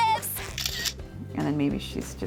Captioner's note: camera shutter click